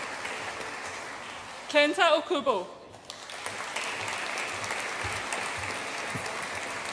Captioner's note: audience applauds